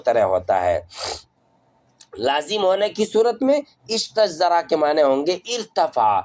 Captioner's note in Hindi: नाक से की जाने वाली आवाज़